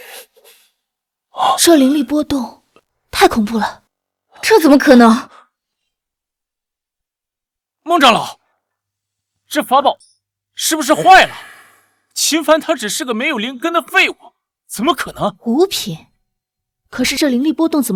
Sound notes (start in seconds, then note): 11.2 gasp